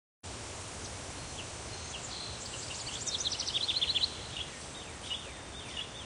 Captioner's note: insects chittering; birds chirping